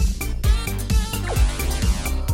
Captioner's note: zapping noise